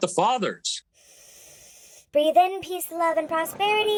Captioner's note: inhales